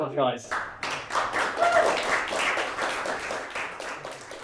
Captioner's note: audience applauds